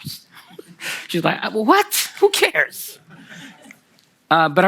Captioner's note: Kelsey and the audience laugh; laughter from the audience